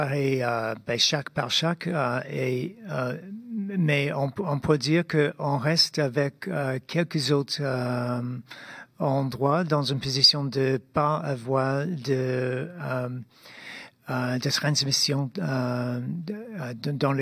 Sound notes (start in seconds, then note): 1.9 speaking in French